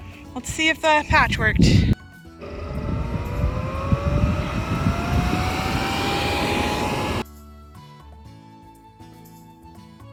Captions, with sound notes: Let's see if patch worked. (air blowing) (upbeat music)